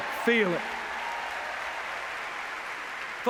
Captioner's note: cheers, applause